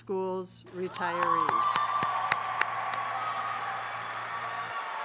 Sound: audience applauding

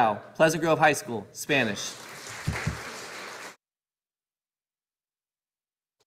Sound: audience applauding

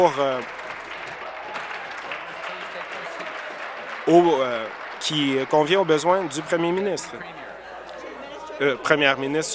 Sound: applause

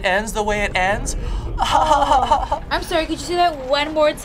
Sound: chuckles

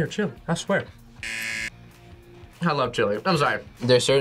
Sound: buzzer

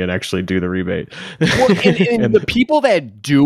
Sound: laughing

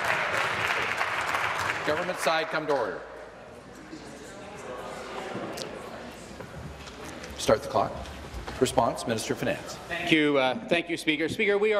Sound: applause

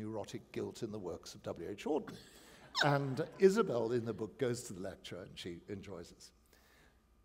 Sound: laughter

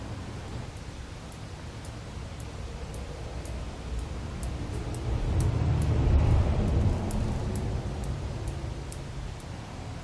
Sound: gentle tapping noise

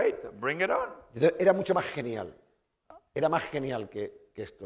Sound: speaking spanish

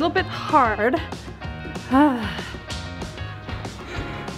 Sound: sighs

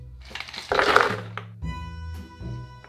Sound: ice dropping

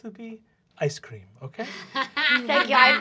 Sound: laughing

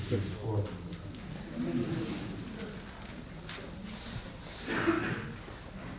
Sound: laughter

